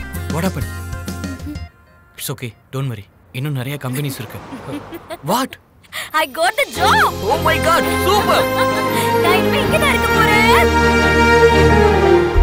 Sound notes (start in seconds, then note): 3.8 laughs